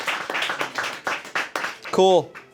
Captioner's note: crew applauds